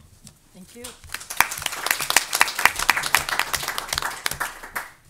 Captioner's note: audience applause